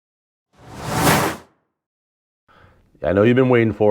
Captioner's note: logo flipping